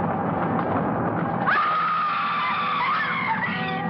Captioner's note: fake screaming